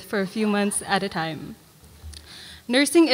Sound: none

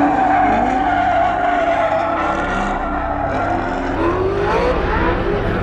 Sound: tires squealing; engine roaring

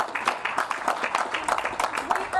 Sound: applause

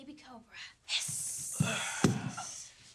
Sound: hissing

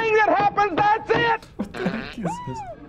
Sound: fart noise

